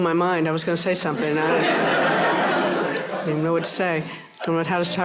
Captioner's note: laughter